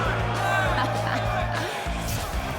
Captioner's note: crowd jeering